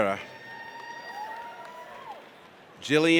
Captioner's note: audience cheers